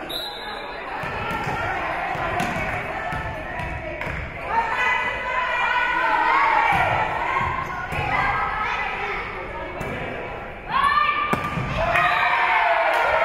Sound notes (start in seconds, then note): 0.0 whistle being blown; 1.6 spectators shouting encouragements; 11.6 spectators cheering; 11.8 whistle being blown